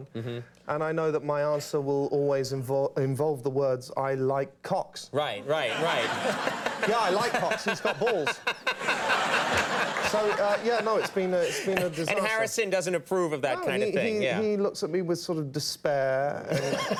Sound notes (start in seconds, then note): 8.6 audience and Conan laugh